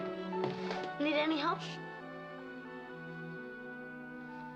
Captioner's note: sighs